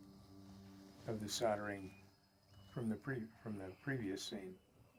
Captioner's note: device whistles and crackles